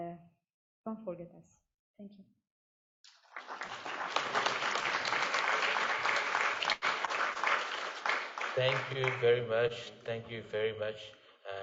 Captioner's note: applause